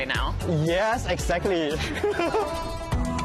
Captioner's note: both laugh